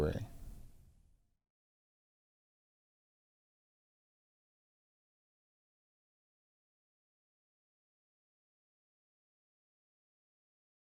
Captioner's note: silence